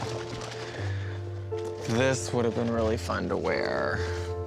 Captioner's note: chuckles